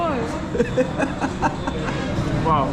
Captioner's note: laughs